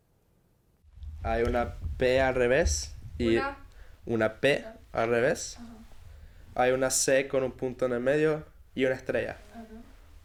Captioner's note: speaks Spanish